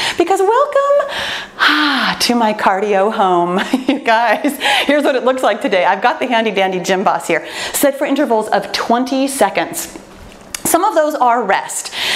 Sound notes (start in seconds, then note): 3.7 laughs joyfully